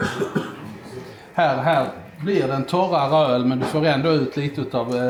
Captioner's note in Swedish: harklar sig